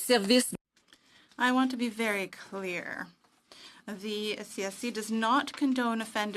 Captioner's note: speaking French